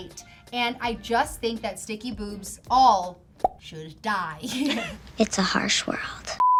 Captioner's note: laughs